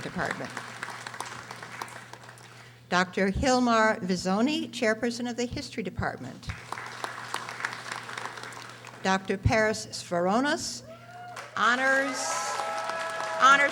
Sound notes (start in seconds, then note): 0.0 audience applauding; 6.5 audience applauding; 11.2 audience applauding; 11.9 audience screaming